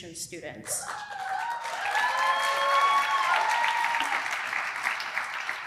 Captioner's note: applause